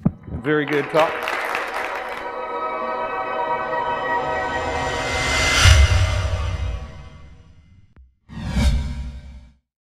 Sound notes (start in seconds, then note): 0.4 audience applause; 2.9 tones chime and intensify